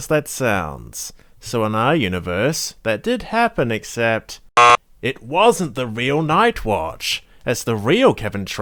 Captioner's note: buzzer sound